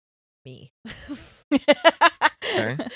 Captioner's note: laughing